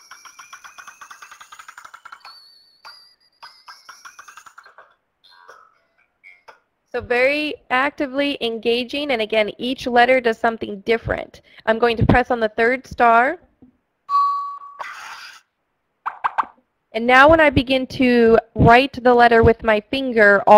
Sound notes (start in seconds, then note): 5.3 cheerful music; 14.2 ringing